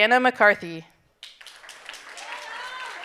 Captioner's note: audience applauding